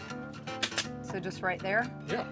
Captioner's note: stapling